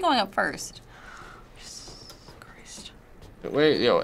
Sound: whispering

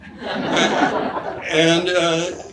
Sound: audience laughs

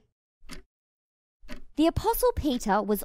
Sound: clock ticking

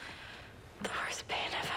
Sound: whispering

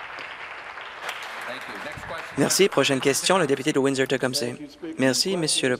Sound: applause

